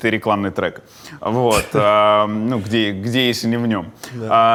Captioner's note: chuckles